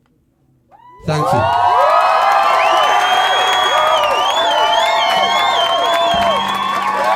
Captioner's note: applause